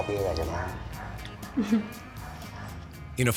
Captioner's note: speaking Spanish